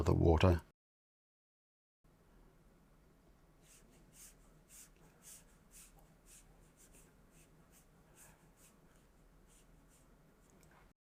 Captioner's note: silence